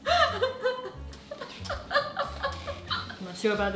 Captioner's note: laughing